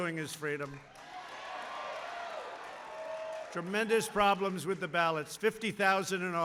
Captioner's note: applause